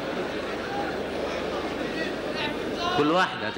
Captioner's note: audience laughter; audience reactions